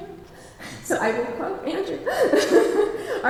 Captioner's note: laughs